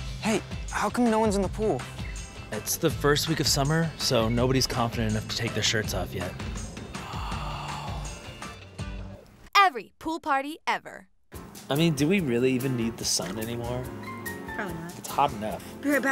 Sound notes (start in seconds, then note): 6.9 le fascinated gasp